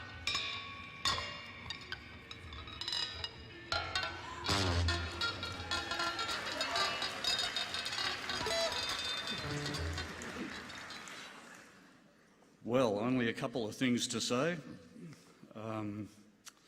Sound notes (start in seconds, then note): 9.1 applause